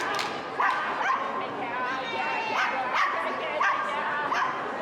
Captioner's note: clapping and chanting; dog continues barking